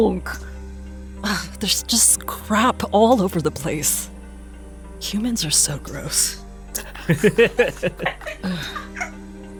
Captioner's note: laughs